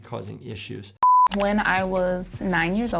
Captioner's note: screen beeping